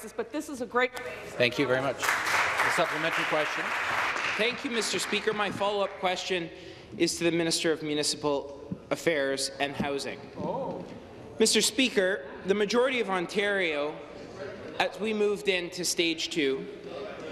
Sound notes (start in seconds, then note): 6.5 applause